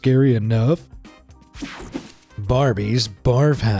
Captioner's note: swishing